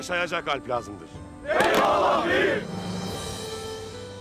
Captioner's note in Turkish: Hep bir ağızdan